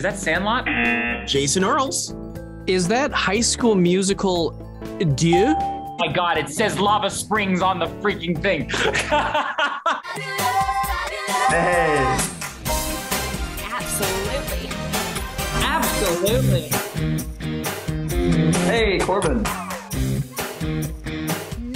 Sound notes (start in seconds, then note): 0.6 buzzer rings; 5.3 bell rings; 8.8 laughs; 12.0 upbeat music; 17.7 upbeat music